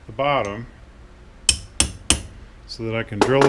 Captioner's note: hammer tapping